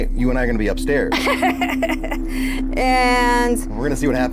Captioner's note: laughs